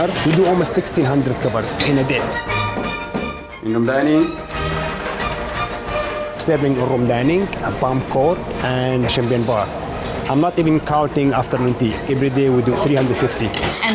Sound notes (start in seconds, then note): 2.7 knocks on door